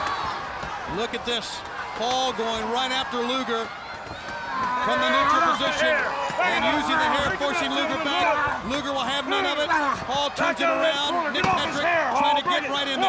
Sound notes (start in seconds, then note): 9.5 wrestlers grunting